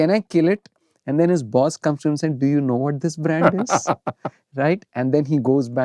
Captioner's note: laughter